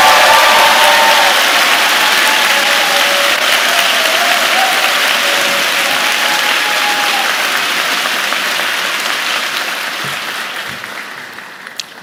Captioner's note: cheers and Applause